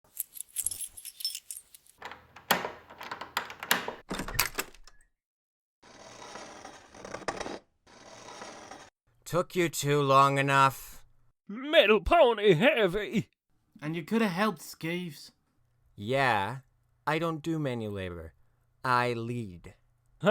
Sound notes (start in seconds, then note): 0.1 chains ratling; 2.0 door opens; 5.1 metal dragging